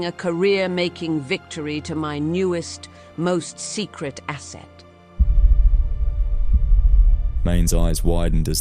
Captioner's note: distant impacts